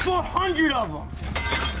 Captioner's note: glass shatters